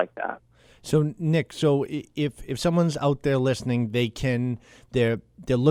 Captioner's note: voiceover